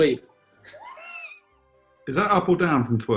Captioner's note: sniggering